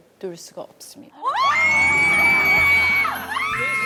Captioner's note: screaming